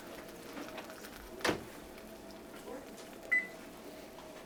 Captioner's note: tray thudding; oven beeping